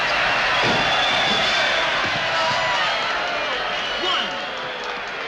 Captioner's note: crowd cheering